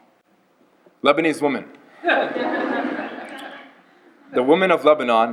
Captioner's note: laughter